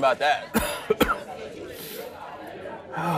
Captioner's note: coughs; sighs